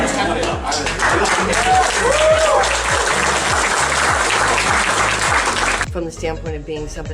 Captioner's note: applause